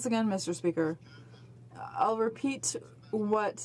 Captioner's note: speaking in french